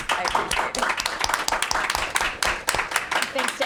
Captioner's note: crowd clapping